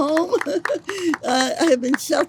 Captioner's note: audience applauds